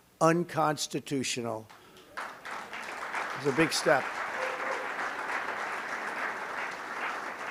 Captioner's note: applause